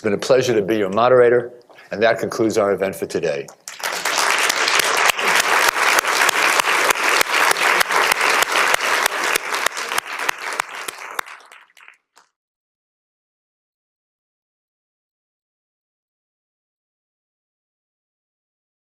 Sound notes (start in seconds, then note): 4.9 applause